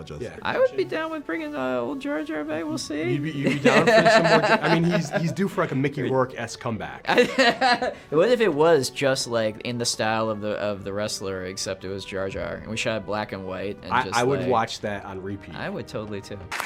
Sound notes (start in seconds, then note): 7.1 laughs